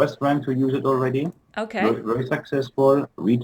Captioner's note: talking